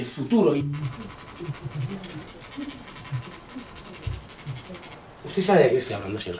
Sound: murmur

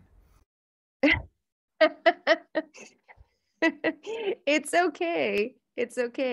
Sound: laughs

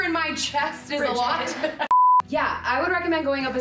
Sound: screen beep

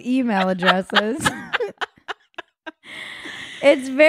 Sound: laughing

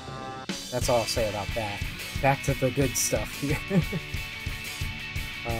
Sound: laughs

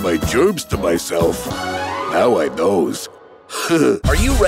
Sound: laughing

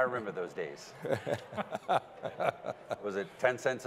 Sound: laughing

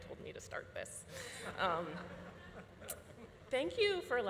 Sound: audience laughing

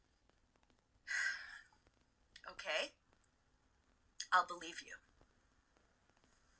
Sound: sighs

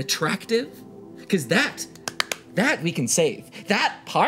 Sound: claps hands

